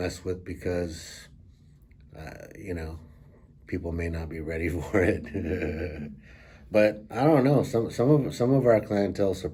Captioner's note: laughs